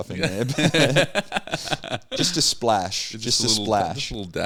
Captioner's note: laughing